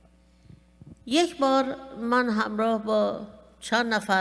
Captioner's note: speaking persian